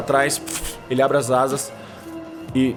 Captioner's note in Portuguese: Asas batendo